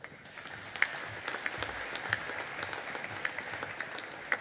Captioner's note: audience applauding